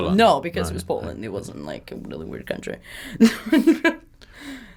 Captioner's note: laughs